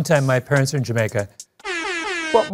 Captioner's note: air horn